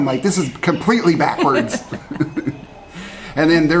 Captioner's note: both laugh